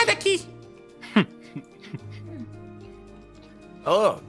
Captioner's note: more giggles